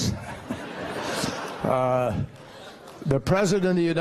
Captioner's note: laughter